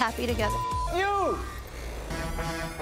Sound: beep

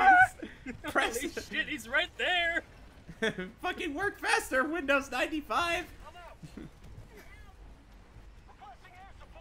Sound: screams

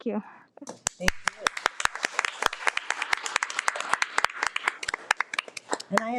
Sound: audience applauding

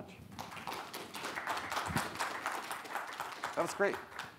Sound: audience applauds

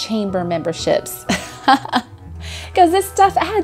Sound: laughs

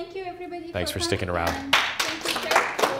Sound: clapping

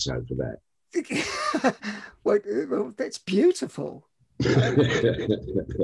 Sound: laughs

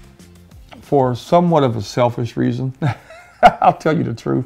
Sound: chuckles

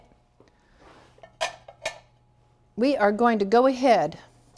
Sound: ceramic clanking

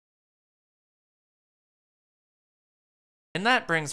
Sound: silence intensifies

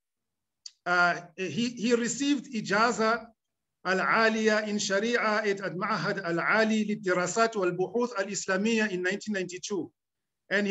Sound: speaking arabic

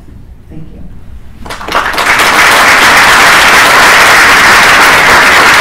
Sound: applause

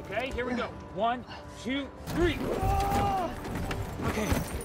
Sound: groans in pain

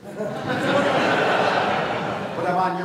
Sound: laughter

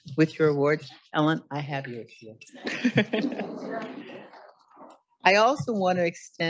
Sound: chuckles

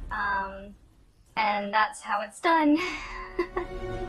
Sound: laughs

